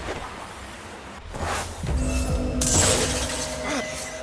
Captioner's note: glass shattering